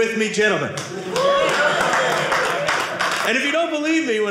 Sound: audience cheering

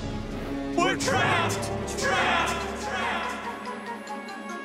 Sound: echoing

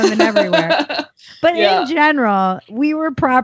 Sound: laughs

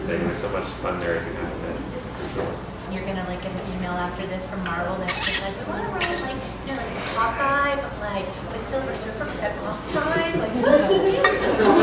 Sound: laughter

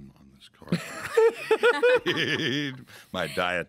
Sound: everyone laughing

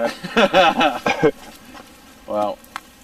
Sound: laughter

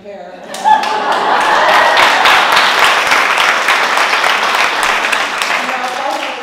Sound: laugh; applause

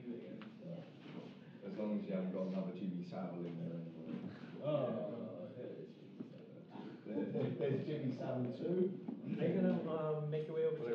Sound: many people talking

